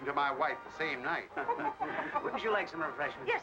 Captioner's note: laughing